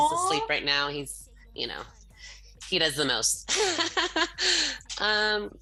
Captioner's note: laughs